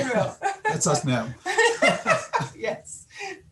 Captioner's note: laughter